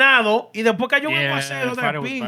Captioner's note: speaking Spanish